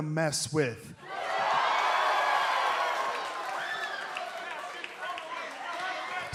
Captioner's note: cheers and applause